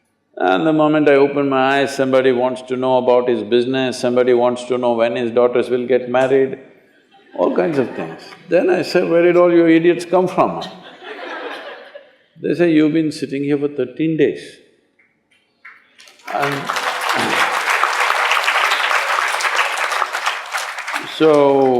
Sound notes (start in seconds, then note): 7.1 laughter; 10.5 laughter; 19.9 applause